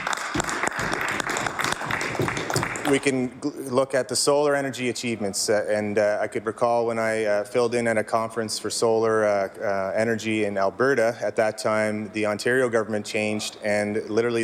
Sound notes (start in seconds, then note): 5.3 some Applause